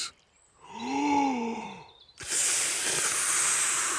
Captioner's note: takes big breath and blows